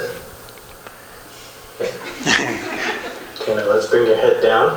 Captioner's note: laughter